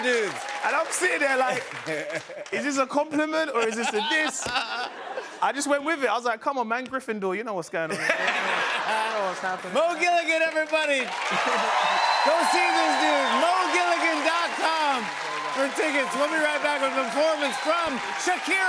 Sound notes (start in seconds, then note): 7.9 laughter; 10.9 cheers and applause